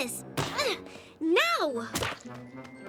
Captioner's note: grunts